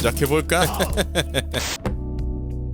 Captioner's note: laughing out loud